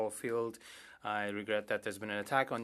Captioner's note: speaking French